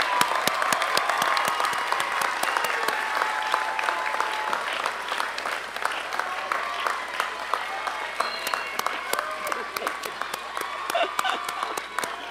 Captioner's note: applause and cheering